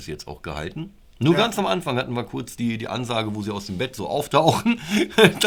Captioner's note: laughter